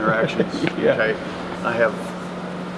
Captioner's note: laughing